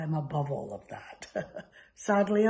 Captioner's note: laughs